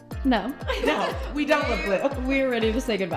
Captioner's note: laughing